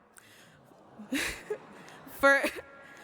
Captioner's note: audience awwing